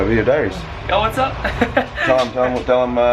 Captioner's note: laughs